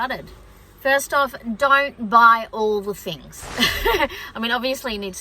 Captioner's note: chuckles